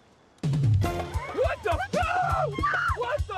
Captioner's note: screams